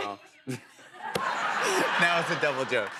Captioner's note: laughter